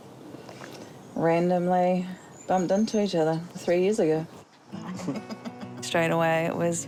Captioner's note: both chuckle